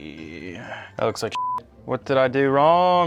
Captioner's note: beep